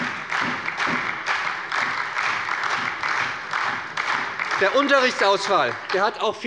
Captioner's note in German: Beifall bei der SPD und der FDP